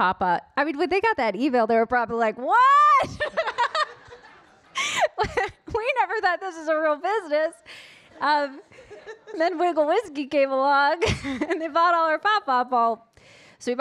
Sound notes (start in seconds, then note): 3.1 laughs; 3.2 audience laughing